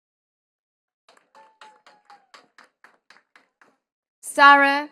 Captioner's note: attendees clapping